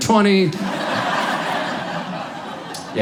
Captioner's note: audience laughs